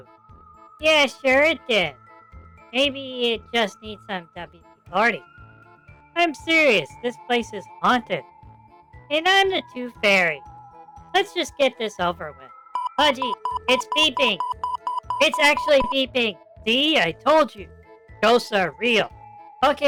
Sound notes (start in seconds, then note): 9.3 sarcastically; 12.8 panicking